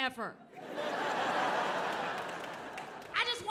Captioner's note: audience laughing